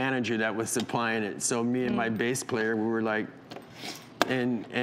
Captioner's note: sniffs